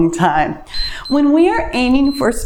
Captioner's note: timer beeps